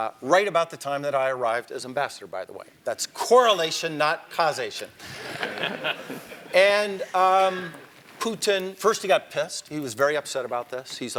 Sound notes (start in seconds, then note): 5.1 laugh